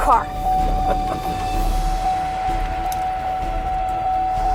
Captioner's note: car beeping